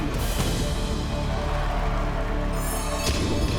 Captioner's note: cheering